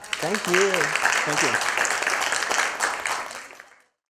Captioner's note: applause